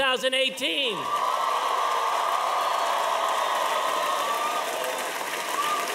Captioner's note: audience cheering and applauding